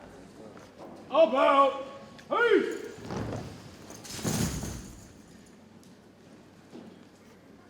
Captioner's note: boots thump